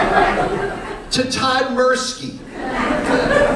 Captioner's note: laughter